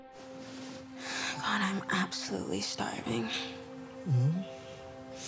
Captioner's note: exhales